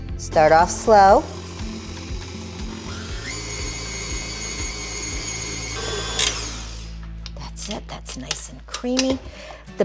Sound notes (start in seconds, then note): 1.0 machine whirs; 3.4 mixer roars